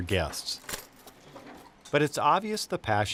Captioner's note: silverware rustling